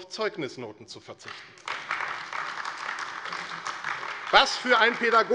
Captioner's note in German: Beifall AfD